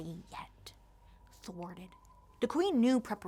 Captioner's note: whispers